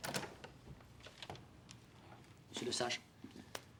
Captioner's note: door opens